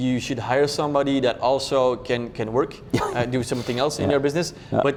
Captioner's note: laughs